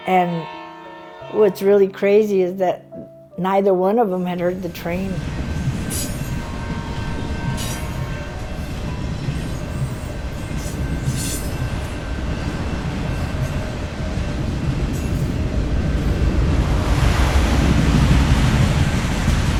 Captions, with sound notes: And what's really crazy is that neither one of them had heard the train. - (train noises)